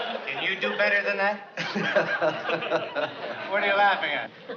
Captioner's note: laughs